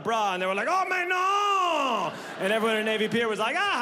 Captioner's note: mimics Gibberish in French